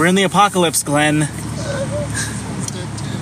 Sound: makes a high-pitched helpless noise

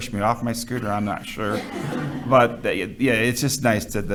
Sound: all chuckling

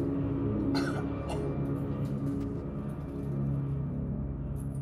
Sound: coughing

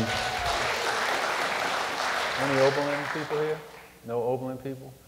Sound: applause

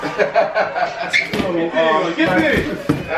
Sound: laughing

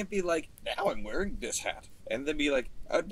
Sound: changing voice

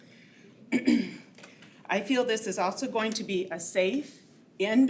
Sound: clears throat

